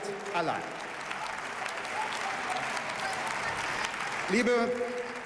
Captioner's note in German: Beifall